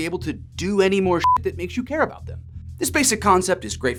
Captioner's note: beep